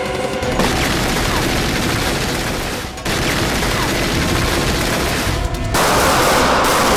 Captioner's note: dramatic music; gunshots banging